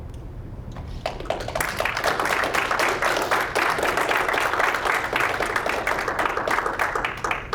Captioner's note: applause